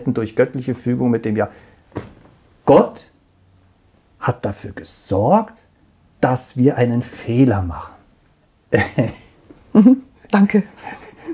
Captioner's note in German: lacht